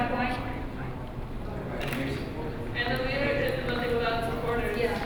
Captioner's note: crowd talking all at once